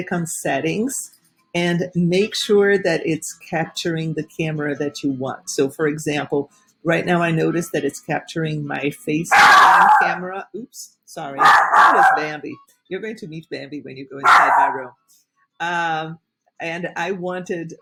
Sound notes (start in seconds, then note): 9.3 dog barking